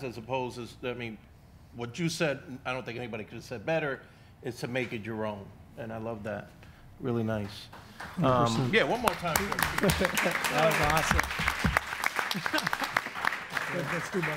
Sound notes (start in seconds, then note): 6.8 audience applauds; 9.9 audience and panel applauds; 13.5 audience applauds